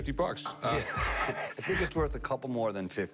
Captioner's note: laughs